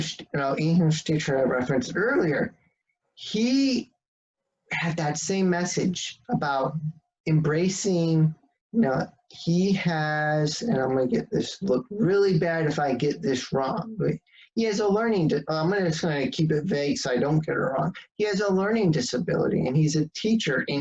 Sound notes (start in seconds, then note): none